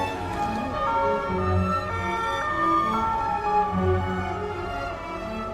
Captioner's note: siren blaring